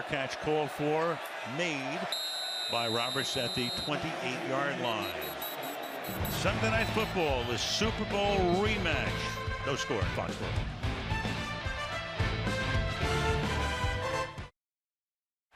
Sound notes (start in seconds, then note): 5.0 whistle; 11.9 upbeat music